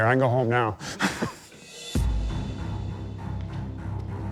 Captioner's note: laughs